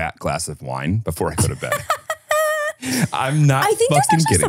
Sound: laughs

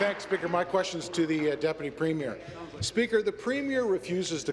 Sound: applause

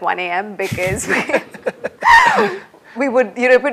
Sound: laughter

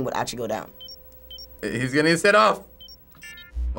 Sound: beeping

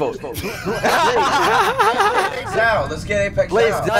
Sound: laughter

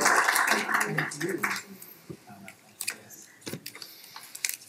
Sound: quiet chattering

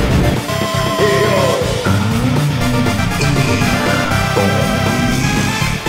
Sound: happy doom noises

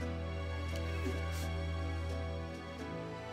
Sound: sniffles

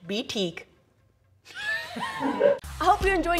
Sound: laughs

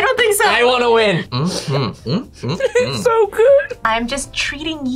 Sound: laughs

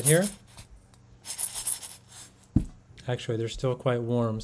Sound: beans rattle

